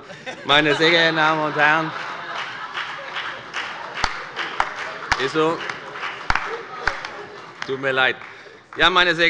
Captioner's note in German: Heiterkeit und Beifall bei der FDP